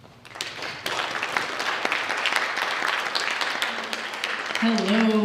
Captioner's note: audience applauds